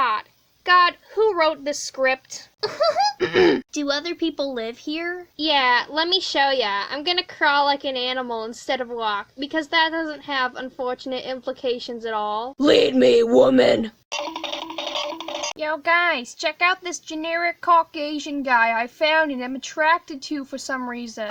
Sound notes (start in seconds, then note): 3.2 clears his throat; 14.1 Scooby Doo running sound effect